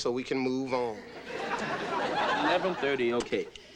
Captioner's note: audience laughing